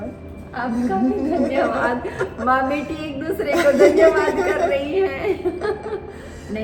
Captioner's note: laughing